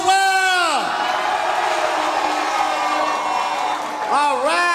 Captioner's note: audience cheers louder